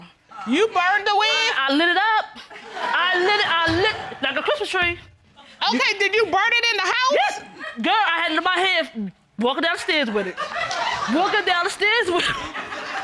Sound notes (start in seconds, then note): 2.4 audience laughing; 9.8 audience laughing; 10.1 chuckles